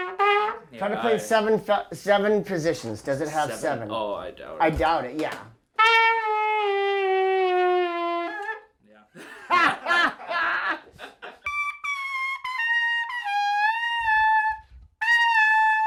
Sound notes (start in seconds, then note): 5.7 playing bugle; 9.1 laughing; 11.3 playing bugle